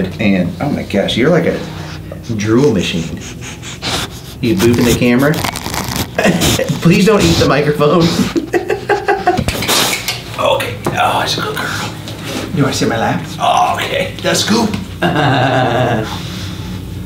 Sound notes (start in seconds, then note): 2.7 Greta sniffing; 9.6 laughs; 14.8 laughs